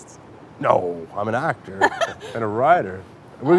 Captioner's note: Ilona laughs